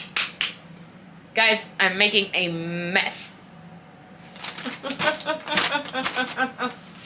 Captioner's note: laughing